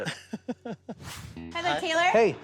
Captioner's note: laughing